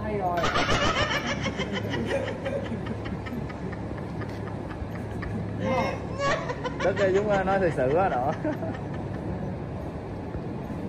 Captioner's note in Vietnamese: Tiếng cười